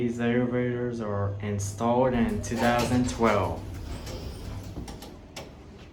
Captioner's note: door Opens